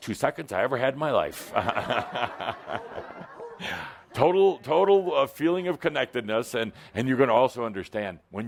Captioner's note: laughter